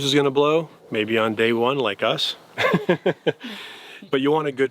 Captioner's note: laughs